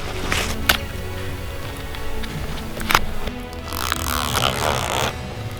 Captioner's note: sound of punching tag